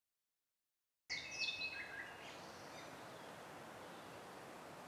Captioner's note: birds tweeting